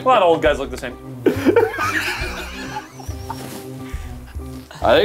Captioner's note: laughing